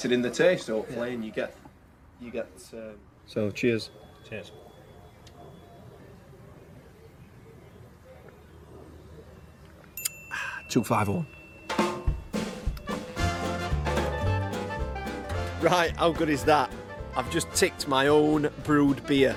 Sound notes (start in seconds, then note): 9.9 clicks tongue; 9.9 pinging; 12.7 upbeat music